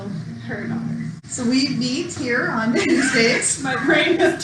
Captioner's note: laughs